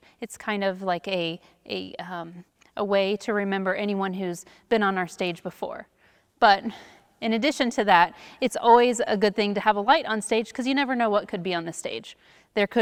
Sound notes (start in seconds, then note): none